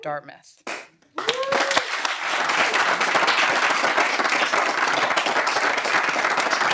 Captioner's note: audience cheering and applauding